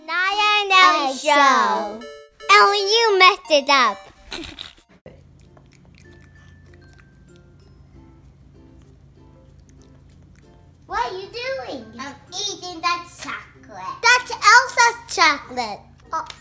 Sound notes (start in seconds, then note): 0.0 laughs; 4.3 laughs; 7.0 playful music